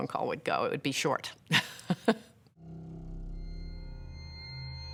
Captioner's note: laughs